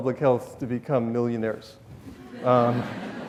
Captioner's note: audience laughs